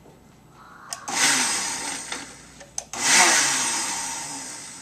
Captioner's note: blender sound